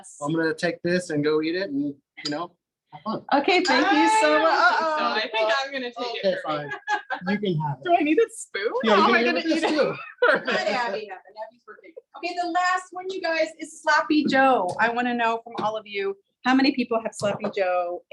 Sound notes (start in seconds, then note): 6.1 laughs; 9.4 laughs; 12.0 laughs